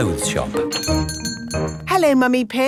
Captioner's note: doorbell chiming